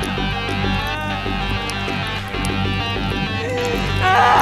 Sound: licking audibly; woman screams and cries fearfully

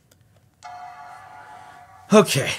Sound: computer dings

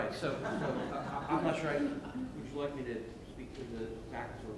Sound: laughing

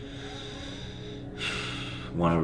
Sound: exhales deeply

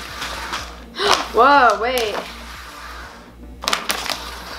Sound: gasp

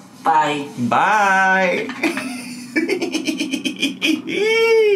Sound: laughs

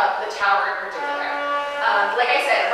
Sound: horn honking

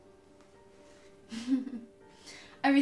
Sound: chuckles

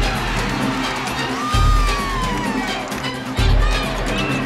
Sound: cheers and applause

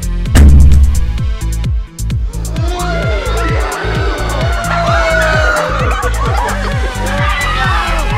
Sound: panic induced screaming

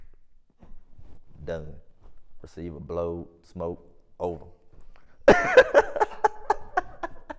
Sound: laughs

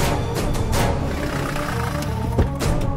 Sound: vehicle Screeching

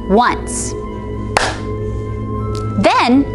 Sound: claps

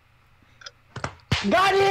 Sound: BA-DUM-TCHs

